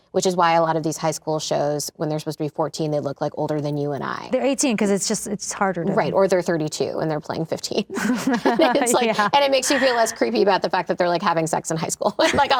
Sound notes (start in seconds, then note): 7.9 laughing